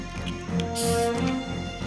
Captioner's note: hissing